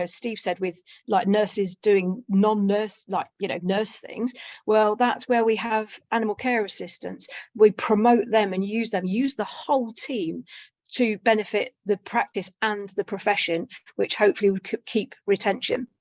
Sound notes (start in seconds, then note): none